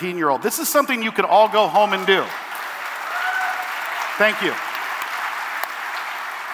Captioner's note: cheering and applause